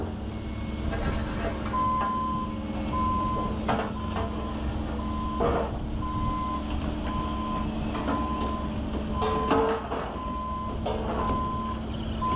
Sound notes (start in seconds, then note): 6.9 tractor beeping